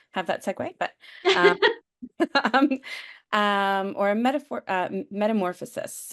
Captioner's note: laughter